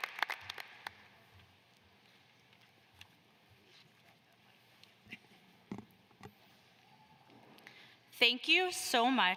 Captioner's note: applause